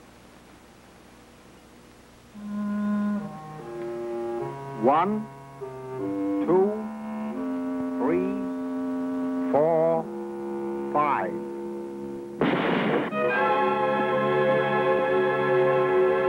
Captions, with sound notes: (light dramatic music) - One. Two. Three. Four. Five. (guns fire) (suspenseful music)